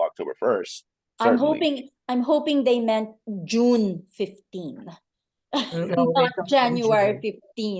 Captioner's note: laughs